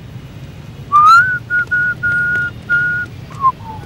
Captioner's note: whistle